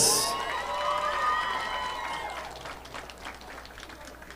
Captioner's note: audience applauding